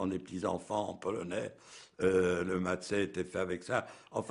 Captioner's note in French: langue étrangère